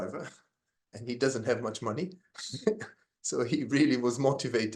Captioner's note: laughs